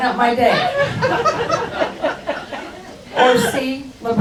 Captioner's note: crowd laughs